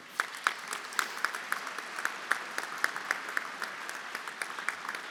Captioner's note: everyone applauding